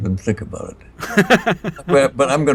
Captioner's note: chortles